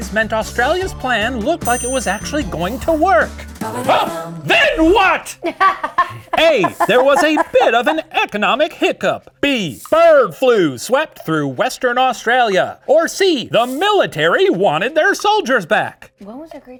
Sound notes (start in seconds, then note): 5.4 laughs; 6.0 gasps